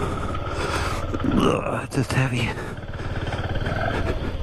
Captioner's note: grunting